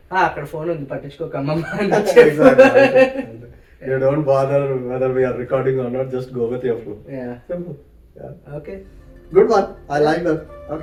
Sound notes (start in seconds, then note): 1.6 laughs